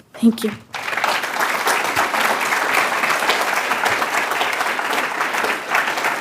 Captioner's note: applause